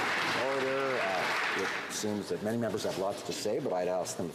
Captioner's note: some Applause